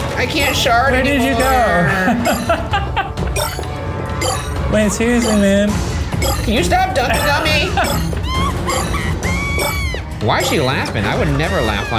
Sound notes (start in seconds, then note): 1.8 laughing; 7.4 Agatha laughing